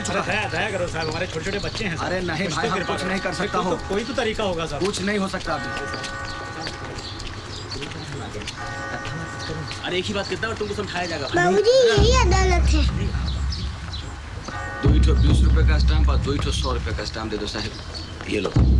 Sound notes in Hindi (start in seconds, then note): none